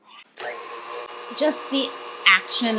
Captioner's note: mixer whirs